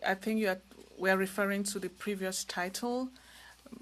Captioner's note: speaking french